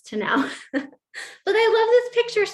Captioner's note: laughter